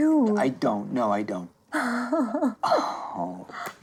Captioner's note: chuckling